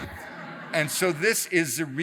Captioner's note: audience laughs